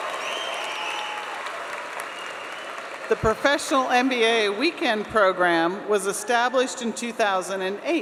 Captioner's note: applause